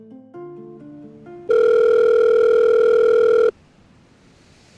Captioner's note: phone Rings